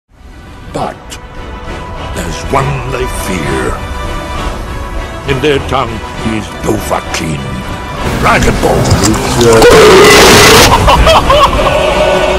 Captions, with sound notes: But... there's one they fear... In their tongue he's "Dovahkiin" Dragonborn! Fus Ro- *BUUUUUUUUUURRRRP!!!!!* *surprised laughter*